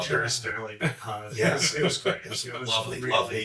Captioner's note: chuckles